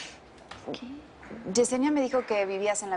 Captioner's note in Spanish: En voz baja